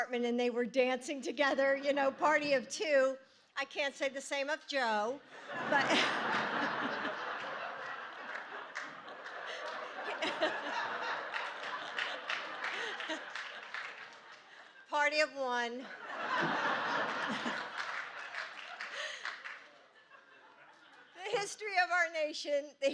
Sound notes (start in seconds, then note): 11.1 laughter